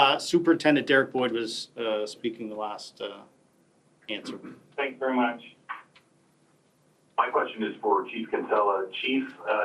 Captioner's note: mixed voices